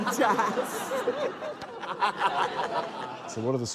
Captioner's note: laughter